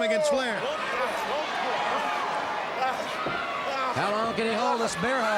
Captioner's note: crowd cheering; Ric exclaiming